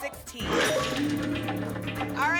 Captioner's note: lock sound